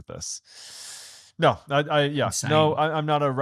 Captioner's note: inhaling